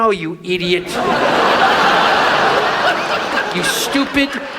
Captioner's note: audience laughs